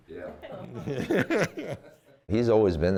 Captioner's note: laughing